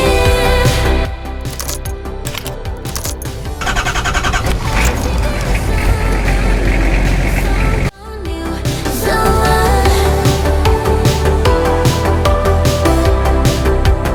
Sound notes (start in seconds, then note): 0.0 sexy Music; 1.2 car Keys Rattling; 1.2 engine Starting; 5.0 sexy Music